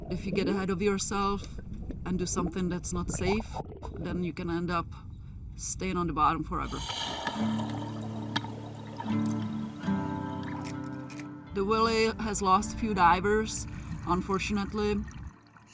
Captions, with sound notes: If you get ahead of yourself, and do something that's not safe, then you can end up staying on the bottom forever. (oxygen tank whooshing) (somber guitar music) The Wilhelm has lost a few divers, unfortunately.